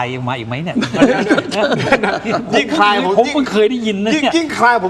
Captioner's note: laughs